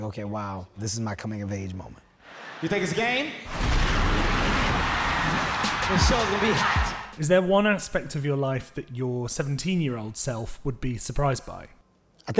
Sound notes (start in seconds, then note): 3.4 fire explodes